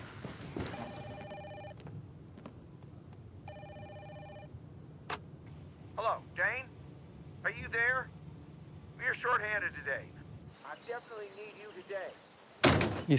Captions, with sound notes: (phone ringing) (answering machine clicks) - Hello, Dayne? Are you there? We're shorthanded today. I definitely need you today